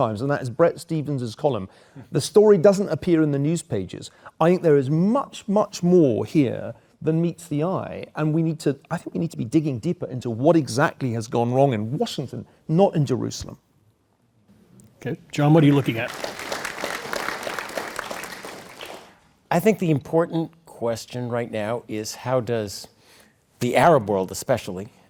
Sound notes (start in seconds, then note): 15.6 applause